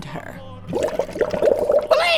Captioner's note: bubbling